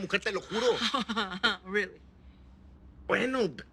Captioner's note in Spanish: Risas